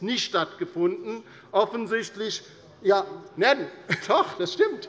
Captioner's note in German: Zurufe von der Regierungsbank